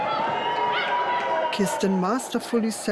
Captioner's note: crowd cheering